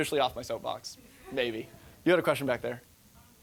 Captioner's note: audience laughing